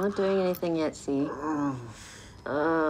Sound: grunting

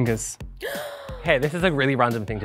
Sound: gasps

